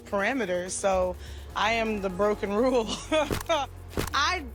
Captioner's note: chuckles